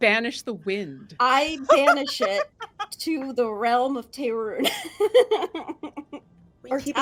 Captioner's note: laughing